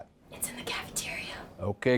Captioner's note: whispered